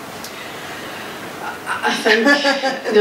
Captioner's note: laughing